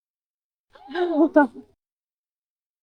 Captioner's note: laughter